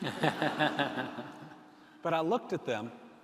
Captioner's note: laughter